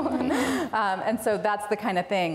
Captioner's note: laughs